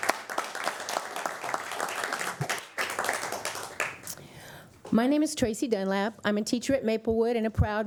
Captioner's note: applause